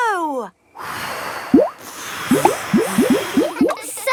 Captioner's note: all blowing